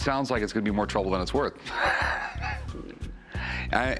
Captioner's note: laughs